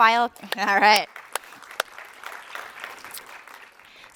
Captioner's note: applause